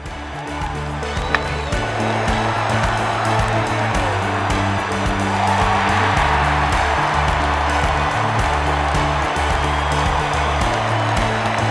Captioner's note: applause